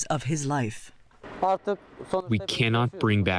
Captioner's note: through translator